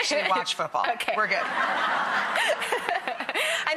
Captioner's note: laughter